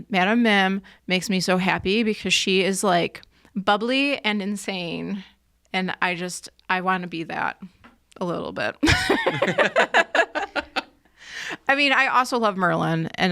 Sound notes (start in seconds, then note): 8.8 people laughs